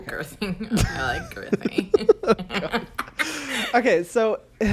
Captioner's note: both laugh